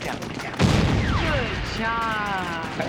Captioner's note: explosion